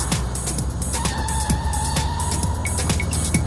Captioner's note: tires squeal